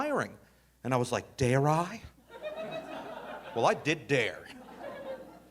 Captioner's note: audience laughing